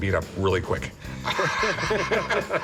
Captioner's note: laughter